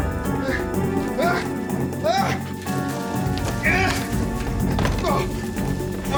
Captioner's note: Jack grunting with exertion